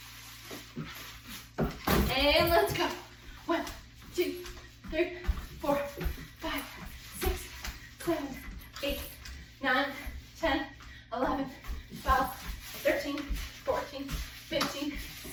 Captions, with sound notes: (toy thuds) And let's go. One, two, three, four, five, six, seven, eight, nine, 10, 11, 12, 13, 14, 15,